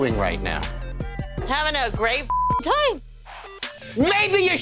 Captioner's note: beep